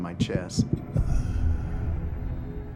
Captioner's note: heartbeats; heartbeats stop